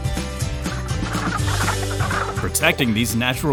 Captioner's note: sounds of frogs